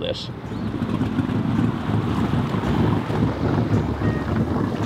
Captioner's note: boat engine roaring